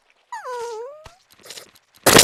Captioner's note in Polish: smutny odgłos psa